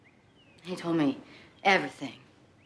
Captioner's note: none